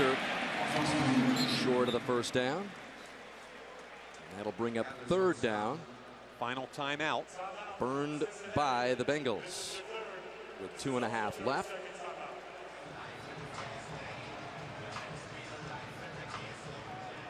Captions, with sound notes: And Foster short of the first down. That'll bring up third down. Final timeout. Burned by the Bengals with 2 and 1/2 left. [pa announcement] [upbeat music]